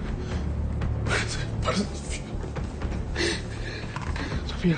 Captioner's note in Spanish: Sollozos